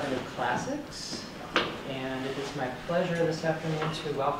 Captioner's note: opening sounds